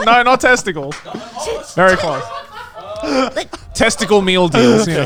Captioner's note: everyone laughing